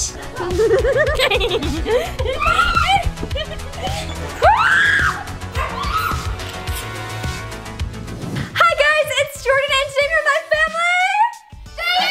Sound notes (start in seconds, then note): 0.1 laughing; 5.5 screaming